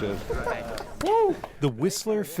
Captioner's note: laughter